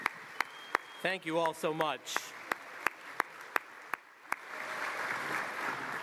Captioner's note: applause